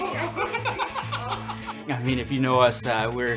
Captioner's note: laughing